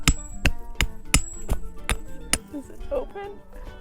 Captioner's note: furious hammering continues